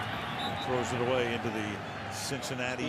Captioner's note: whistle